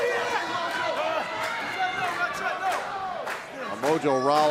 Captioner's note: laughing